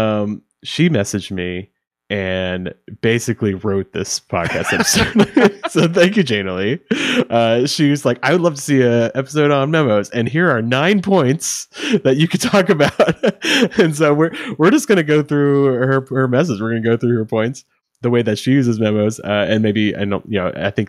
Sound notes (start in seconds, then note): 4.4 laughing